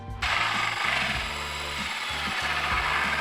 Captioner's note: clatter; drilling